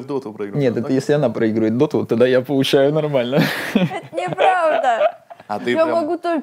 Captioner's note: laughs